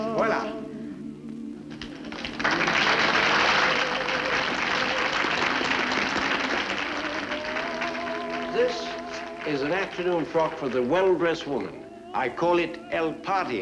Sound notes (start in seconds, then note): 3.0 applause